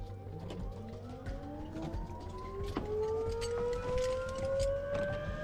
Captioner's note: helicopter engine whirring